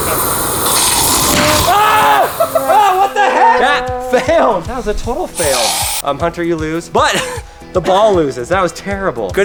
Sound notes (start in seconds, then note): 1.3 screams